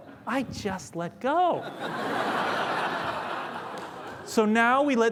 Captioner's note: laughter